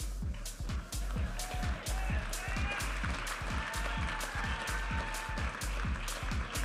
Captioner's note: audience applauding and cheering